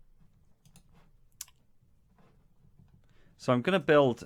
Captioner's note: sound of mouse clicks indicating a move to another on screen page